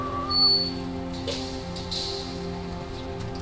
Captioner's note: gate creaking